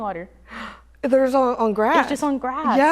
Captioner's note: gasps